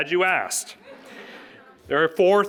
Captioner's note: audience laughing